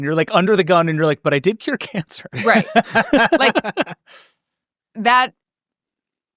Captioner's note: laughs